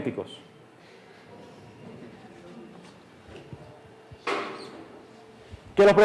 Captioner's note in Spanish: Clase ríe y murmura